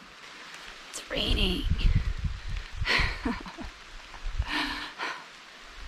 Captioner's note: laughter